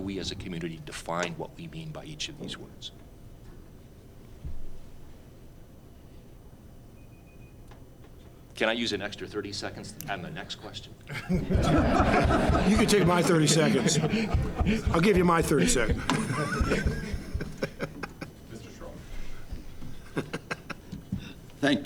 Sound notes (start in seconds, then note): 7.3 timer beeping; 11.2 audience laughing